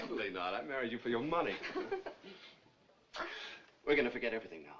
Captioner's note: chuckling